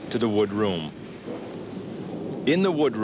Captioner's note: wood thunking